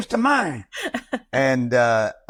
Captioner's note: laughs